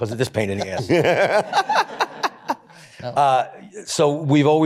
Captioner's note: laughter